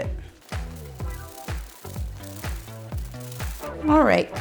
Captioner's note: sped-up rustling of nuts